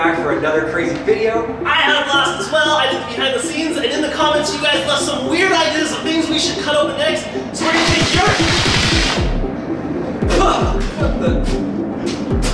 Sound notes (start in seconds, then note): 7.7 blast; 10.5 spits